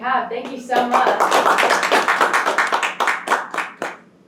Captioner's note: crowd applause